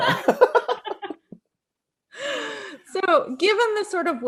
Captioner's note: laughing